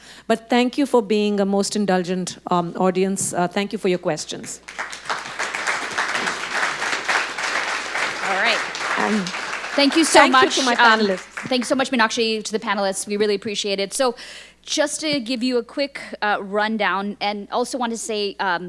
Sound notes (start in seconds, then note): 4.4 audience clapping